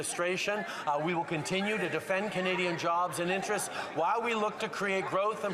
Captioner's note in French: voix de l'interprète